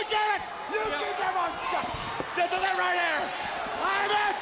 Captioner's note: Flair screaming